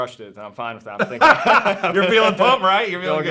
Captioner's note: laughs